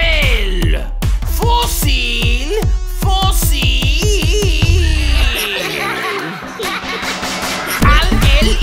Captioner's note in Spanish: Risas